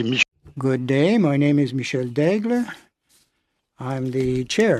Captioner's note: speaking French